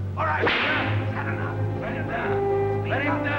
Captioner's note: whip cracks